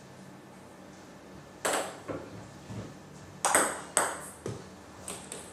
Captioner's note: balls ping pong hitting continues